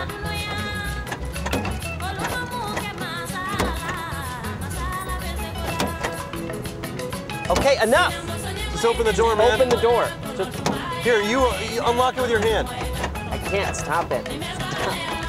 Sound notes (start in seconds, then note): 2.1 door clicking